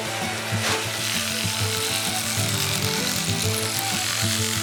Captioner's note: machine buzzing